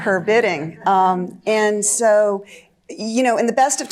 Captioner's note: audience chuckling